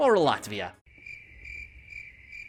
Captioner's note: crickets chirping